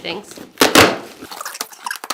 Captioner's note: box pops; fast-forwarded squeaky speech